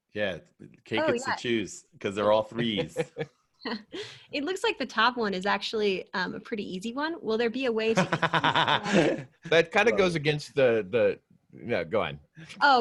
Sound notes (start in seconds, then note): 8.0 laughing